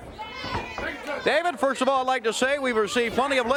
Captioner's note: crowd cheering